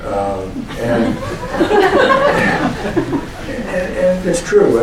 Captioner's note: laughter